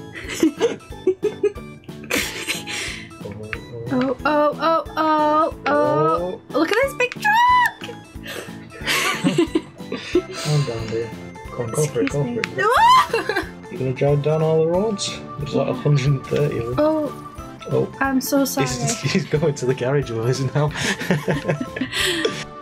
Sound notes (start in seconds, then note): 0.2 laughter; 8.8 laughs; 12.7 screams